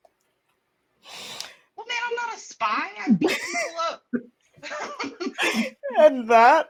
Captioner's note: laughs